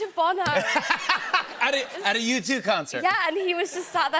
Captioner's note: laughter